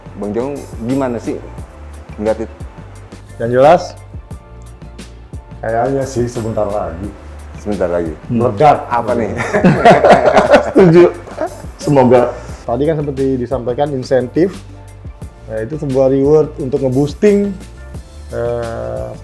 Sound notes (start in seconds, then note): 9.3 laughs